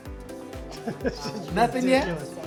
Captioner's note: laughing